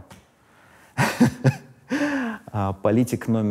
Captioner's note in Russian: смеется